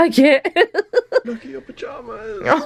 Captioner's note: laughs